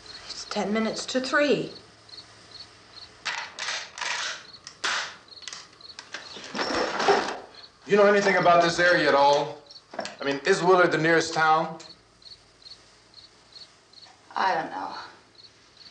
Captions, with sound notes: It's 10 minutes to 3:00. [ RIFLE COCKS ] You know anything about this area at all? I mean, is Willard the nearest town? I don't know.